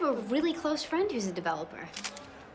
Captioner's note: camera clicks